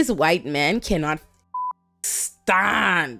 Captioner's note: beep